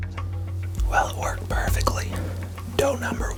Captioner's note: whispering